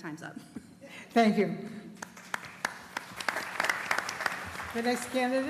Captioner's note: applause